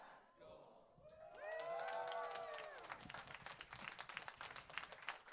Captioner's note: audience cheers